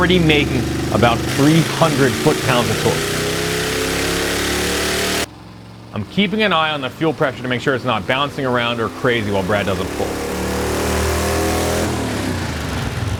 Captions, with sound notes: I'm keeping an eye on the fuel pressure to make sure it's not bouncing around or crazy while Brad does a pull. (engine purring)